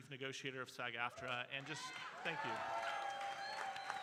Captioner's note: audience cheering